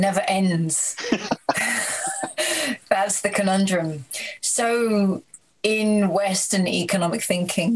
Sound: laughter

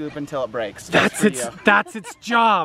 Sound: laughing

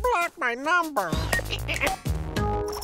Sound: beeping

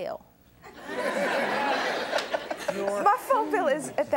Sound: laughter

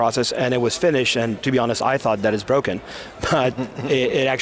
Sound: laughs

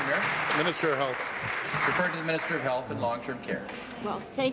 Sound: applause

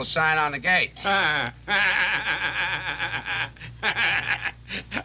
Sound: Homer laughing

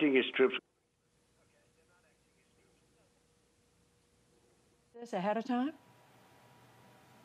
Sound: audio gap

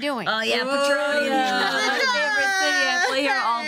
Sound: group cheering

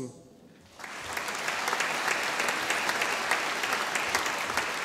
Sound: audience applauding

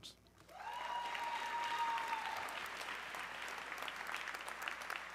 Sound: audience cheering

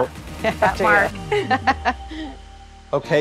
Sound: chuckling

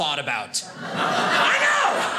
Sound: audience laughing

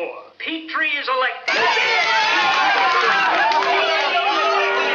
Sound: cheering

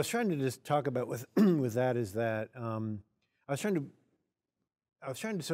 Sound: coughing

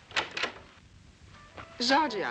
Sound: door clicking

